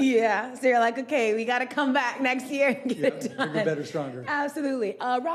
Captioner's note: laughing